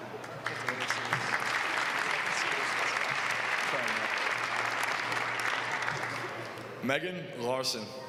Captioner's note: applause